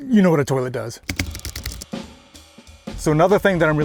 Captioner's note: keyboard clacking; upbeat music